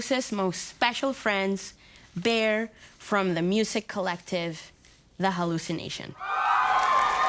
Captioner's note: cheering & applauding